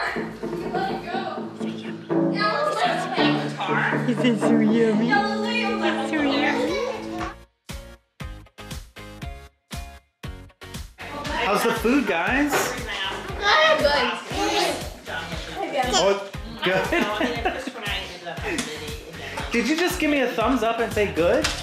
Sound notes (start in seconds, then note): 7.2 upbeat music; 16.6 laughter